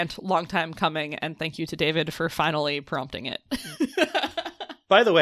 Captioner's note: laughs